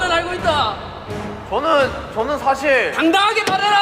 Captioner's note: hesitant